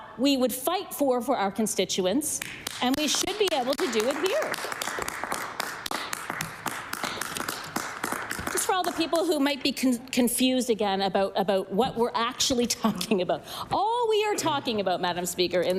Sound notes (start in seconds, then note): 7.0 applause